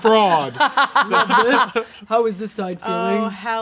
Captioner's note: laughing